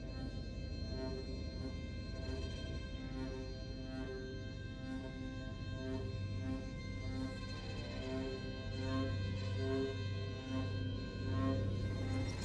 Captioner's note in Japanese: 灯台の霧笛のような音